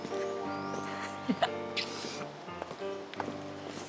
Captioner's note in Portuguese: risos